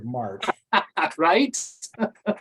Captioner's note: laughs; laughter